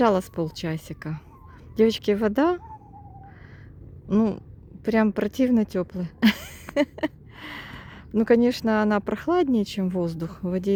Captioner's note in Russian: смех